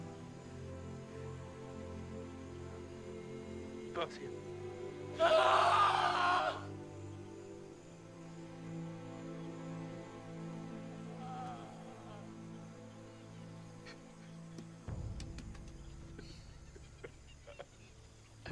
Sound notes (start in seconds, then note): 4.8 yells; 11.1 sobs; 13.1 cries